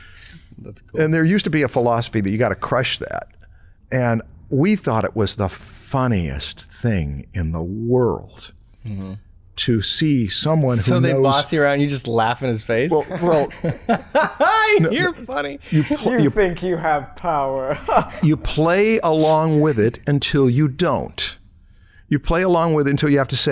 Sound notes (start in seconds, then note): 12.8 laughs; 17.3 chuckles